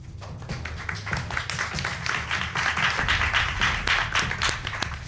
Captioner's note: audience applauding